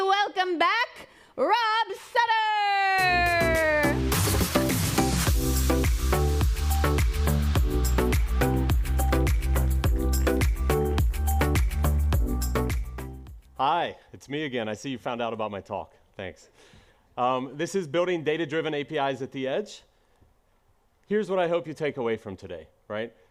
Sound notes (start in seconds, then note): 6.2 applause